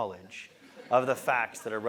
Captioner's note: laugh